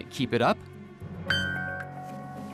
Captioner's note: beeping